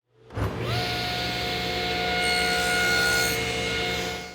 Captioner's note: saw running